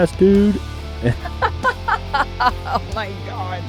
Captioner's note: laughter